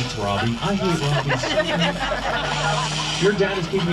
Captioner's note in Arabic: يضحك الركاب